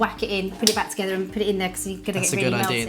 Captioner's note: claps hands